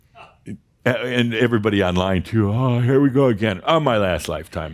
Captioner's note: yawning